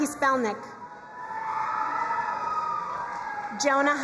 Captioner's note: crowd cheering and applauding